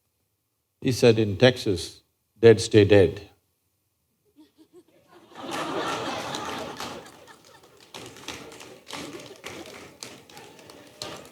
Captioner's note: laughter